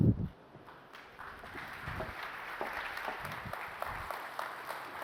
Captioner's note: applause